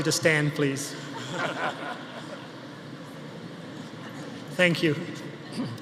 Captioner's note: audience laughing